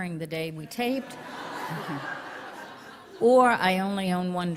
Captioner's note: laughter